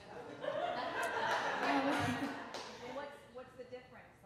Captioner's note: audience laughing